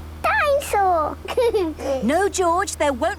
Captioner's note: giggles